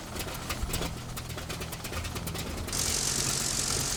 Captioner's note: whirring